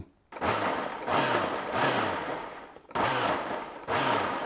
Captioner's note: blender whirring